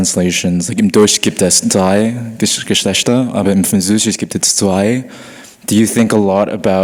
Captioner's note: audience member speaking in foreign language